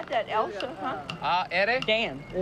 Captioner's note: speaking spanish